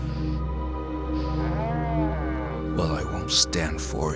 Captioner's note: creature groaning